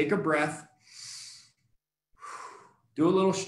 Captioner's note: deep breathing